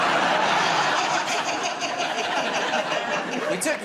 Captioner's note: laughter